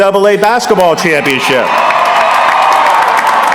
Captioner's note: applause